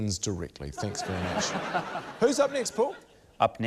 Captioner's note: laughter